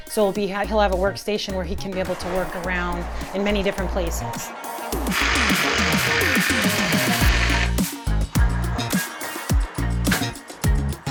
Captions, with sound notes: so he'll have a workstation where he can be able to work around in many different places. (driller revs) (upbeat music)